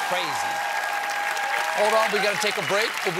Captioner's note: cheers and applause